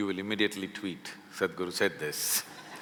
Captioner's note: laughter